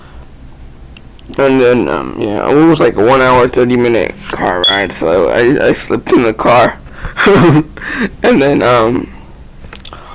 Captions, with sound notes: And then it was, like, a 1 hour 30 minute car ride, so I slept in the car. ( Laughter ) And then--